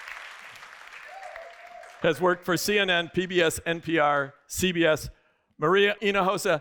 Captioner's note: applause